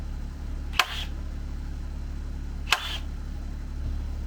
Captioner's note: tool buzzes